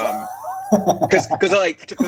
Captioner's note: laughing